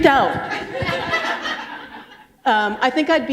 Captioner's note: laughter